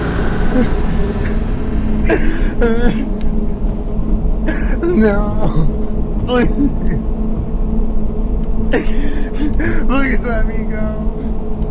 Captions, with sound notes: (wimpering) No. Please, please let me go.